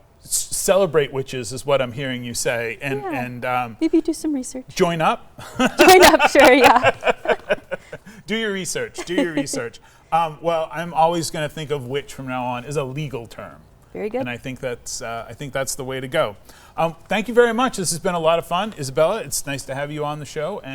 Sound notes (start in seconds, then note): 5.4 laughing; 8.8 chuckles